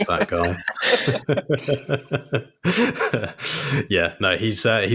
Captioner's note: both laughing